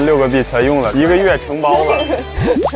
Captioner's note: laughs